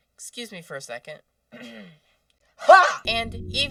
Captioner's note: ahem